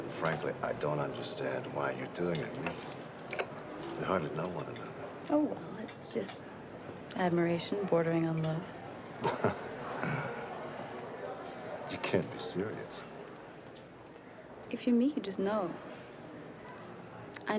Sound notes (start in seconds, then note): 9.1 chuckling